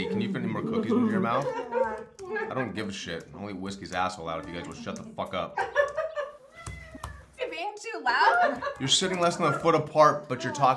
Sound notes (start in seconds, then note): 4.5 Domonique laughs; 7.0 cat meows; 8.0 laughs